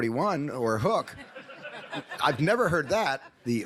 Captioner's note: audience laughs